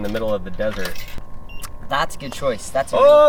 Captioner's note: machine beeping